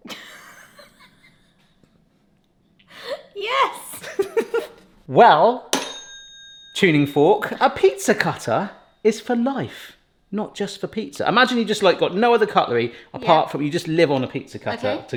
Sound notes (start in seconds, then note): 0.2 laughing; 5.7 blade dings